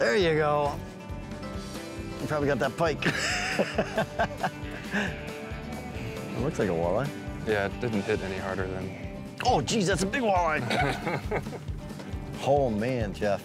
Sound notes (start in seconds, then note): 3.0 laughing; 10.6 chuckling